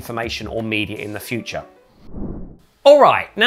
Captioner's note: air swooshing